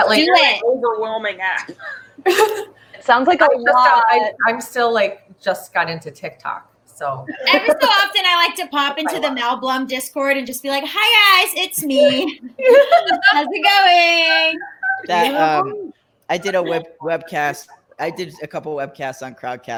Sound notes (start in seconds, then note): 14.1 all laugh